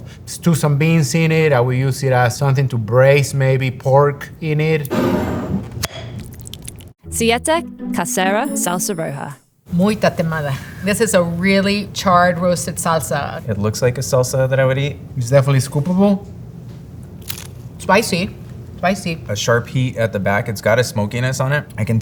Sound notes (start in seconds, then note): 4.9 jar sliding; 4.9 lid opening; 6.1 salsa pouring; 9.5 speaking in foreign language; 17.2 mouth crunching